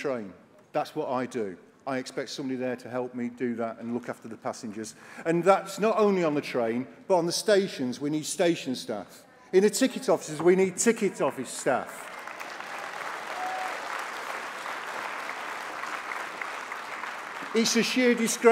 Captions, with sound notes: I, concentrate on what I do, I expect someone there to help me passengers and that is not only on the train, but on the station, we staff. In the ticket office, we need ticket office staff. (APPLAUSE)